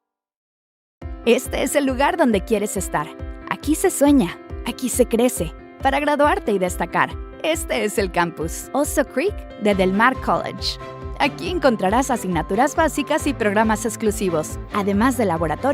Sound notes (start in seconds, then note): 1.6 narrator speaking in foreign language